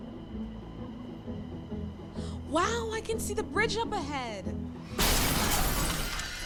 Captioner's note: loud crashing sound